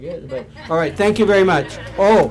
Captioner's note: audience laughs